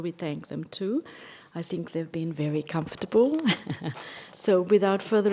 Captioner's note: laughs